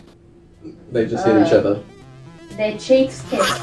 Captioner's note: laughs; groans in disgust